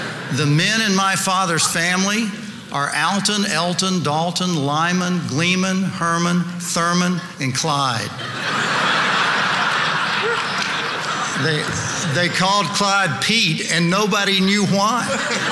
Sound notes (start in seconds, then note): 0.0 audience laughing; 7.9 audience laughing